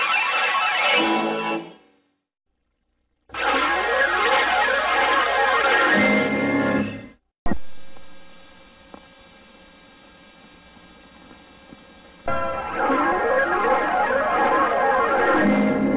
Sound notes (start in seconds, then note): 7.4 VHS static; 12.3 analog synthesizer swirling sounds resuming